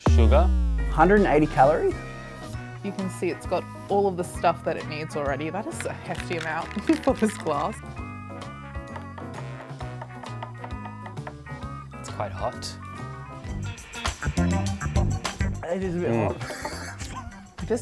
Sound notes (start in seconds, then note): 7.8 quirky upbeat music; 9.0 spoon stirring